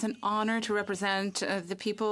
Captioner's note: speaking French